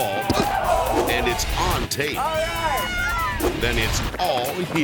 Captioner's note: people shout